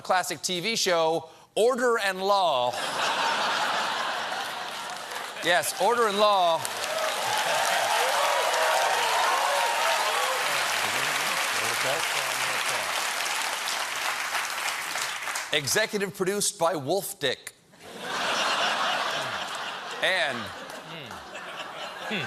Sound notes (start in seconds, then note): 8.8 applause; 17.8 laughter